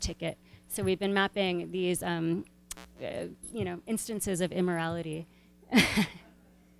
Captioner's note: laughs